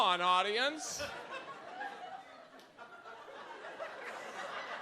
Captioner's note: audience laughs